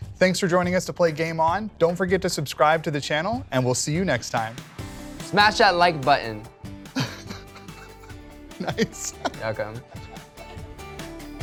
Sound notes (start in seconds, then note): 6.9 laughter